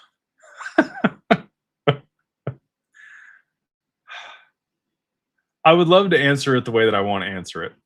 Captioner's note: laughter; sighs